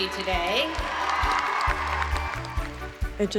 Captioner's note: cheering